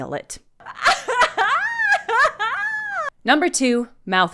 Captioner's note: wordless gleeful cackling